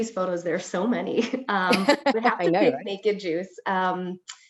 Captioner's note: chuckles